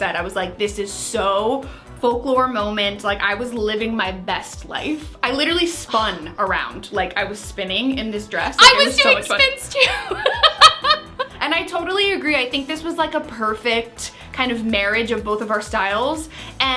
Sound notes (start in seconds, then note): 10.0 laughs